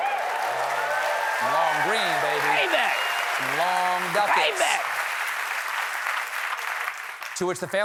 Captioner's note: applause